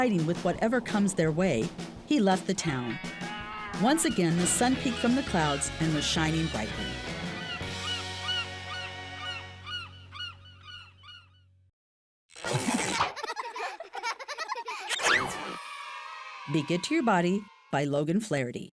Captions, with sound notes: with whatever comes their way, he left the town. Once again, the sun peaked from the clouds and was shining brightly. (birds chirping) (children laughing) Be Good To Your Body by Logan Flaherty.